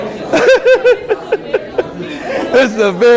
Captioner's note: laughs